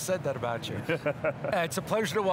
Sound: laughs

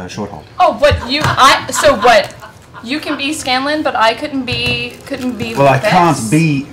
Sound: stutters

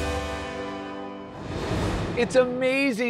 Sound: bright music; graphics whooshing

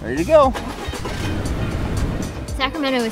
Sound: car starting up

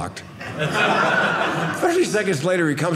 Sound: audience laughing

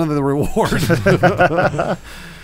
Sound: laughing

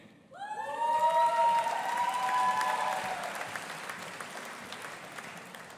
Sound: audience applauding and cheering

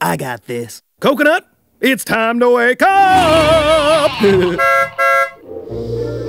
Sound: laugh

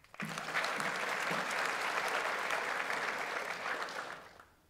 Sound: audience applauds

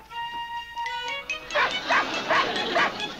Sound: dog barks

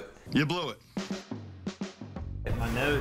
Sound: none

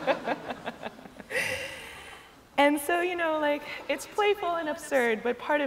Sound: laughter

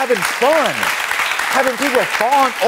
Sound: audience clapping

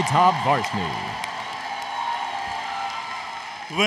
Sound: applause, Cheering

